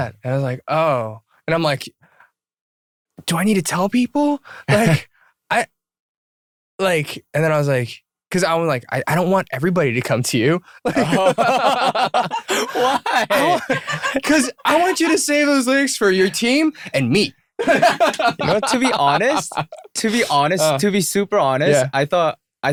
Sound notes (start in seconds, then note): 10.8 laughter